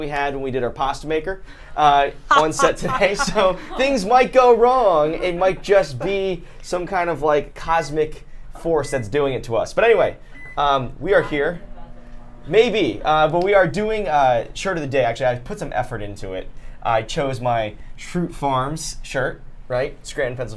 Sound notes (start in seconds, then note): 2.3 everyone laughs; 10.3 microwave beeping